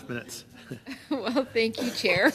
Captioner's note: laughter